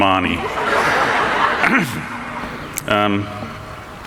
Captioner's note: laughing